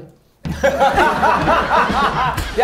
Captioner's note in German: Lachen, Tusch